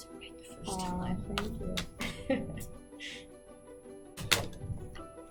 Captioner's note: laughs